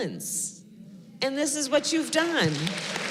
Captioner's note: applause